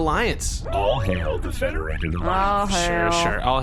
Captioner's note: sarcastically